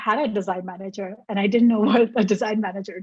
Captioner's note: laughs